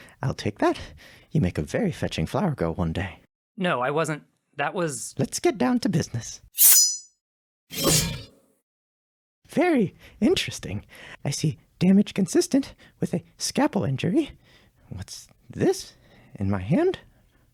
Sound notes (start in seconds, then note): 7.7 scalpel sounds